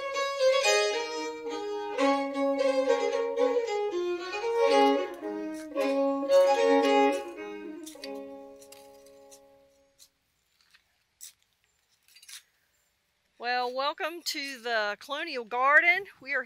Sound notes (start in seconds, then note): 8.7 hoe scraping